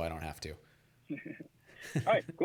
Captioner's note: laughs